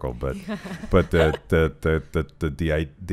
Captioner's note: laughing